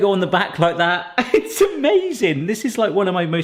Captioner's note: laughing